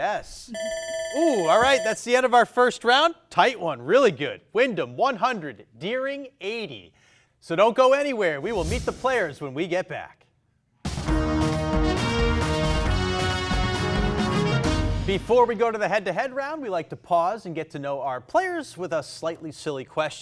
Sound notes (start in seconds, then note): 0.6 timer ringing; 10.8 upbeat thrilling music